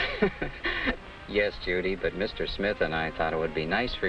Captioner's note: laughs